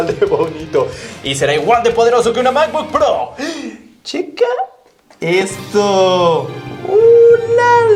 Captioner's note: gasps